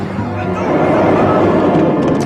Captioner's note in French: Grognement